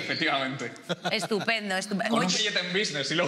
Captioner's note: they laugh